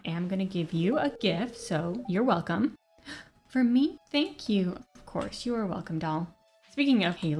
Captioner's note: gasp